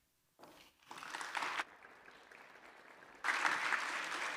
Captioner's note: applause